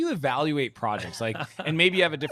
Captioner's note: chuckles